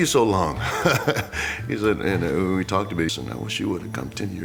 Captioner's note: laugh